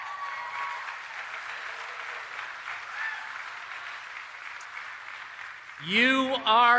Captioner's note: applause